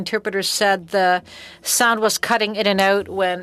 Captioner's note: speaking French